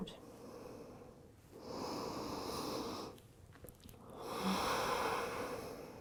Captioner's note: deep breathing